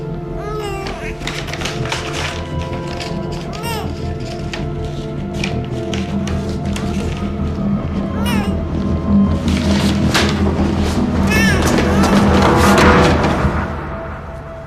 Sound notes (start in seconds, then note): 1.7 crying continues